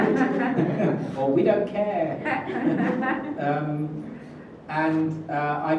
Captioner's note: laughs